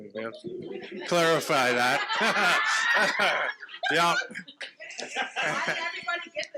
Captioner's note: participants laughing